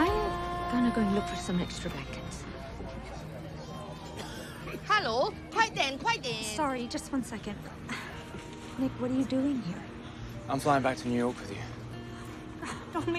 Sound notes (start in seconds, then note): 3.1 gentle music; 4.1 passenger coughing; 5.6 speaks in foreign language; 8.3 scoffs